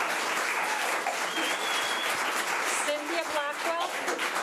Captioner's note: audience applause